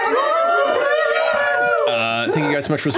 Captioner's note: cheering